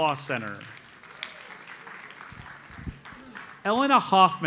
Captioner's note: audience applauds